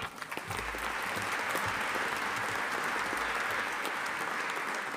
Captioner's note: audience applauding